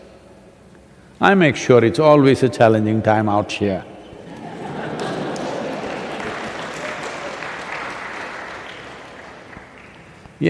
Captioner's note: laughter/Applause